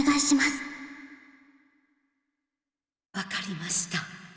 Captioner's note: silence